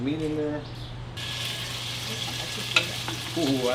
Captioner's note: oil sizzling